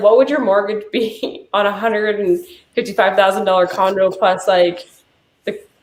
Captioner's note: chuckling